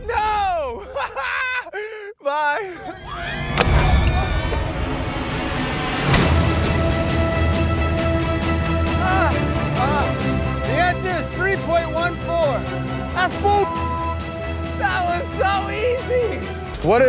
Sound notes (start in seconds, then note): 0.5 laughs; 2.8 screaming; 6.6 intense violin music; 13.6 beep